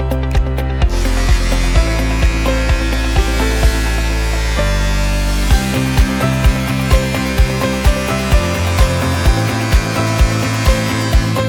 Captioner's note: metal grinding